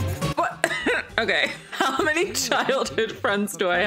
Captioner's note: laughs